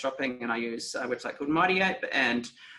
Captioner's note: speaking foreign language